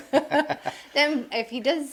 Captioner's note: laughing